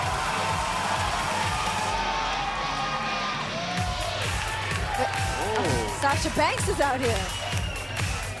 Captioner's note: cheers & applause